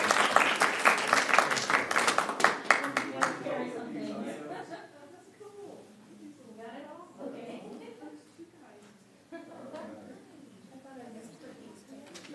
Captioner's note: applause